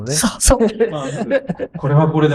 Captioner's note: laughs